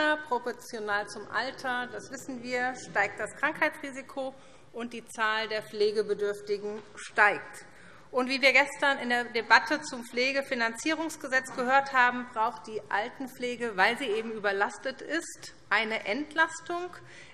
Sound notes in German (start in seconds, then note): none